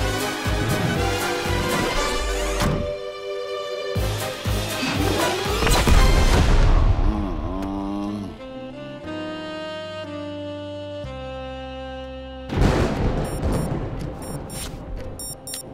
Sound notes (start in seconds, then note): 5.6 explosion; 6.8 groans; 12.6 thunder; 13.5 watch beeps